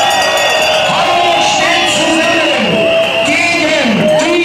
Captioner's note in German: Jubel, klatschen